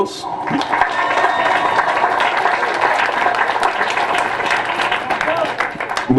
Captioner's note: applause